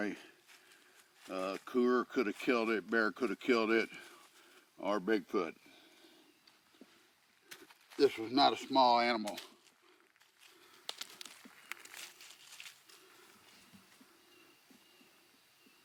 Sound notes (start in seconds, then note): 10.7 bone pattering; 12.8 birds chirping